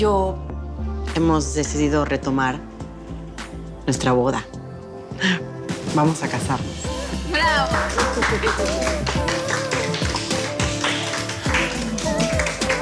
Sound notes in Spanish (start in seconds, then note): 2.9 Aplausos